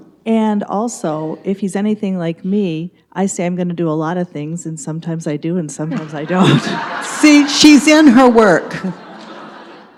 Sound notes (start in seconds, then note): 5.9 audience laughs